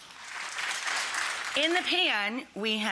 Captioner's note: audience clapping